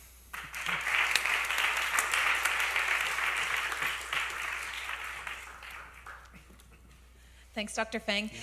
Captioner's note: applause